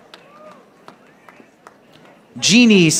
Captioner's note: audience applauding